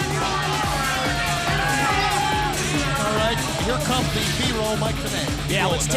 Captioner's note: crowd cheering